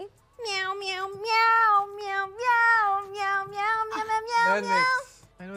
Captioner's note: meowing in tune